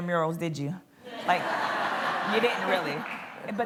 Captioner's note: laughter